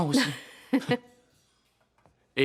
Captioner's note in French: rires